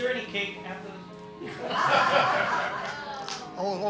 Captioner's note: laughter